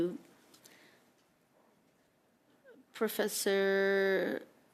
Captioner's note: speaking French